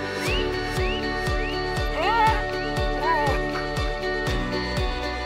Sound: dog hears whistle and whimpers

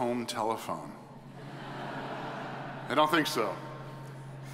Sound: audience chuckles

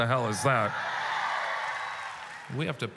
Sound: audience cheering

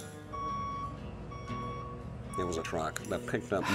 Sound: truck beeping

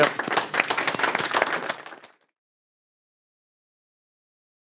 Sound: audience applauding

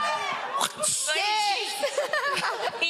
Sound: audience cheering; whipping sound

